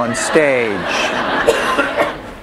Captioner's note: laughter